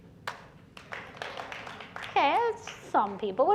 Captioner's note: clapping